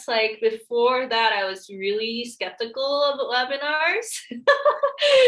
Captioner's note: laughs